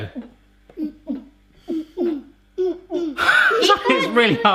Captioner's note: girls making heartbeat sounds